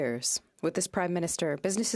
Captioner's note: speaking in French